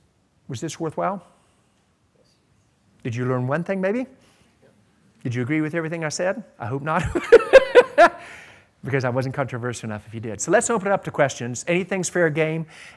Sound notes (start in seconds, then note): 7.2 laughs